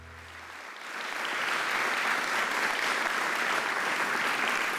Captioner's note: audience applauding